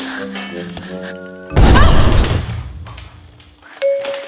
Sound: explosion

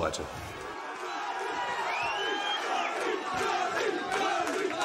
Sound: crowd shouting and chanting

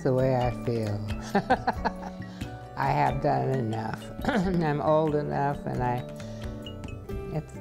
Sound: laughs

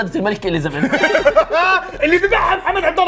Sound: laughter

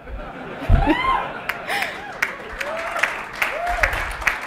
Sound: laughter and applause

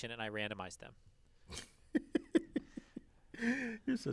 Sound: laugh

